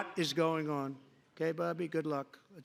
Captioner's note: shouting